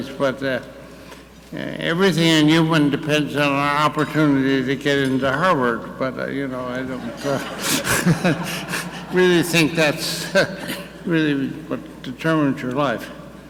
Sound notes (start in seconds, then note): 6.8 audience laughing; 6.8 laughing